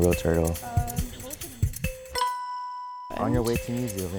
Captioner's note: bell dings